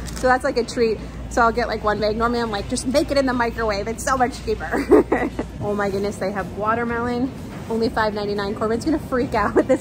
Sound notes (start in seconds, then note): 4.7 laughing